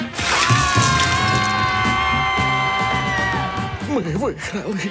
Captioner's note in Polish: okrzyki radości